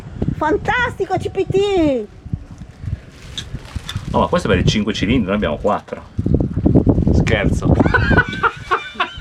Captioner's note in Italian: risate